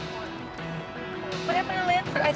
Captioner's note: radio chatter